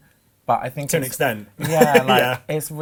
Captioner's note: laughs